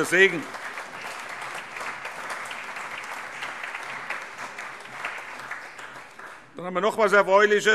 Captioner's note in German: Allgemeiner Beifall